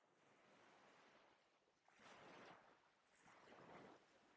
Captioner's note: gentle waves against a shoreline